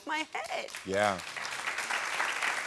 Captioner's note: audience applauding